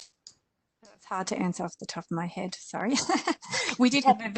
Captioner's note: laughs